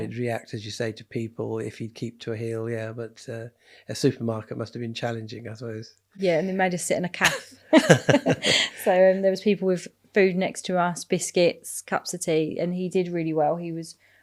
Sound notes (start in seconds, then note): 7.7 laughing